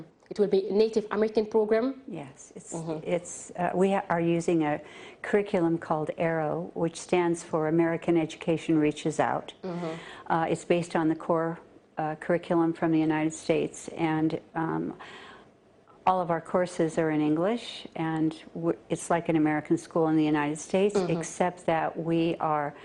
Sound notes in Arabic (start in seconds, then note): 0.3 تتحدث الإنجليزية